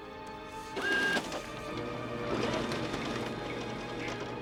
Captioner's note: copier whirring; soft dramatic music